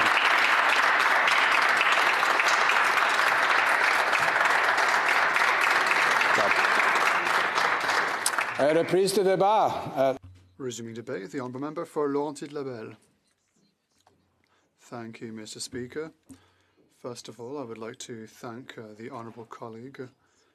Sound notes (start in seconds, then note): 4.7 applause; 15.9 speaking French